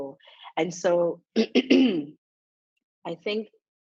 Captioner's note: coughs